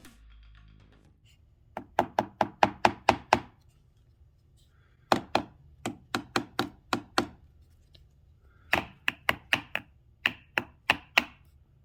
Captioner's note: bang bang bang